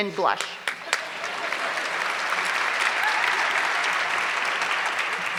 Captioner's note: audience clapping